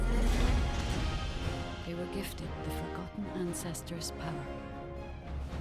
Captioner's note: ghostly Voice